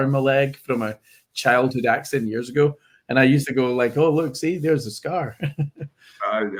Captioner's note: laughs